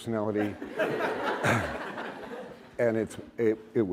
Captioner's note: laughter